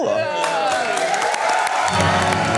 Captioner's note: cheering, applause; dramatic orchestral music